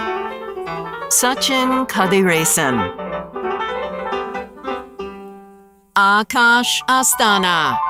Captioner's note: none